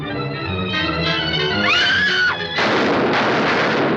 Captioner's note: screams